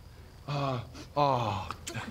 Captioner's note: sniff